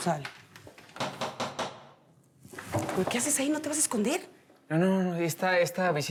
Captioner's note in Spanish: Toques en la puerta